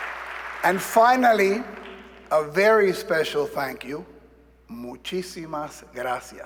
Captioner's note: applause